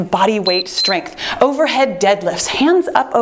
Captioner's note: timer beeps